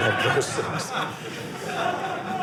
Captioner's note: audience laughing